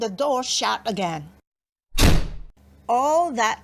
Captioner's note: door bangs